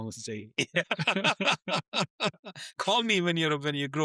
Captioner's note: laughing